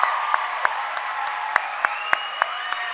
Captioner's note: cheering and applause